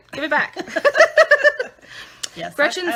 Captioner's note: laughing